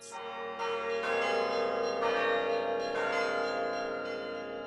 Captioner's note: bells chiming